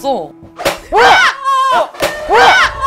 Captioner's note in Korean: 결국 터져버린 풍선